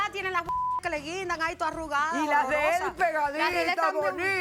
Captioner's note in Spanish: Bip